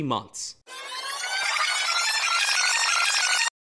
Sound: rewind sound

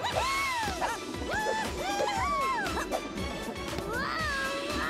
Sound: all cheering

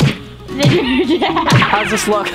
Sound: laughs

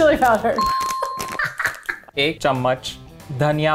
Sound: chime dings; laughing; speaking in Hindi

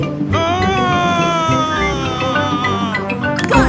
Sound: screaming

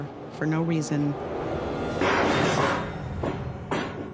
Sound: bang

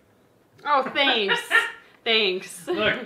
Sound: man laughing

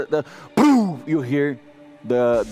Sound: pow

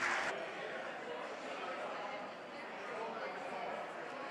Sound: audience applauds; audience chattering

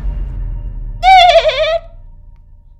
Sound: dolphin squeak

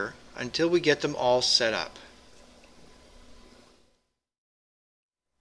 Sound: pause

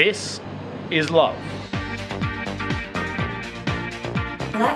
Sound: none

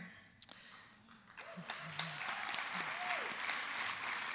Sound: applause

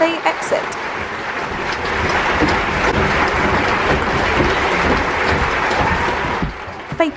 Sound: applause

